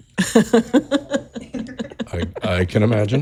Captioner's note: chuckle